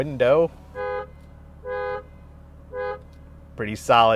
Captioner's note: car hooting